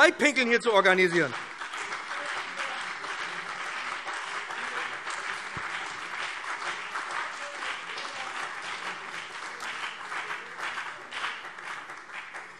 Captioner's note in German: Beifall BÜNDNIS 90/DIE GRÜNEN und CDU